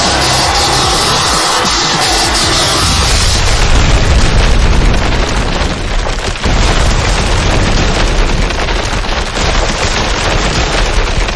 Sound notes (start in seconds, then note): 3.1 explosion booming